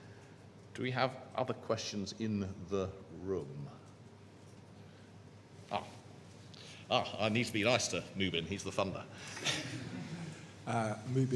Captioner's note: laughter